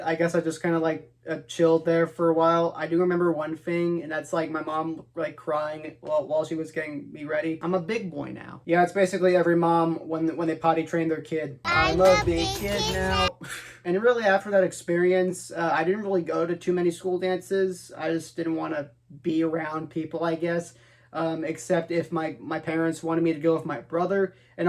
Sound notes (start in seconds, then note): 13.4 laughs